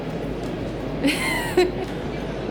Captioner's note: laughs